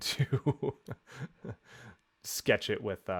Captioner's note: laughs